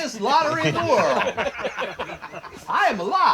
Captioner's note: laughter